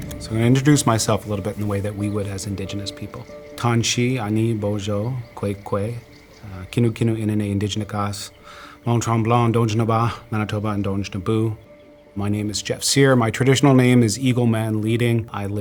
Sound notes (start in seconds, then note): 0.0 gentle music; 3.5 speaks in foreign language